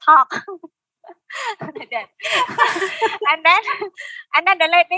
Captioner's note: laughing